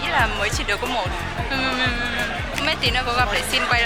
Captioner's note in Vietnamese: khóc lóc các thứ